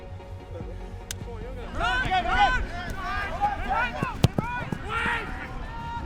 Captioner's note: person From Side Yelling